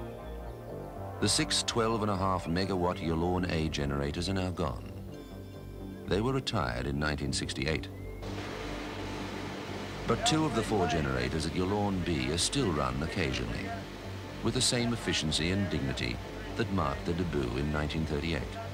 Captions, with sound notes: The six, twelve and a half megawatt Yallourn A generators are now gone. They were retired in 1968. (machines operating) But two of the four generators at Yallourn B are still run occasionally. With the same efficiency and dignity that marked the debut in 1938.